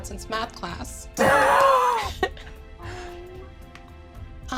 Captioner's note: all laughing